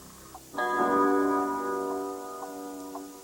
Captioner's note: clock chimes